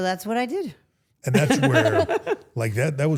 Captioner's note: both laughing